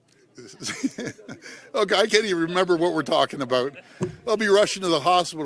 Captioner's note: laughter